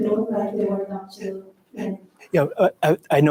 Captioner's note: faintly speaking